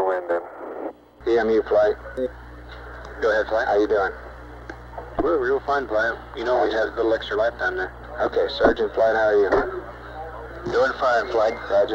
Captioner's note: mission Control Audio